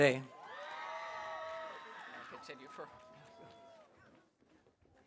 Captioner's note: audience cheering